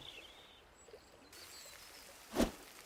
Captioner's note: sizzling